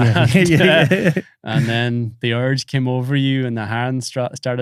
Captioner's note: laughs